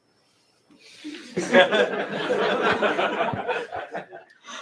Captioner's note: laughter